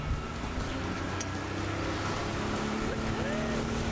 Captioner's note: boat enging roaring